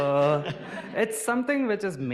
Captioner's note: audience laughing